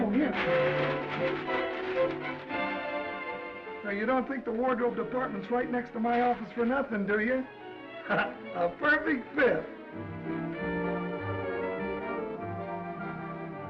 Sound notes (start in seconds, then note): 0.0 bag rustling; 1.3 upbeat music; 8.0 Danny laughs; 9.8 gentle music